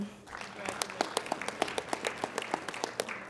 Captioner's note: applauding